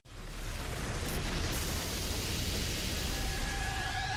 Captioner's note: flames burning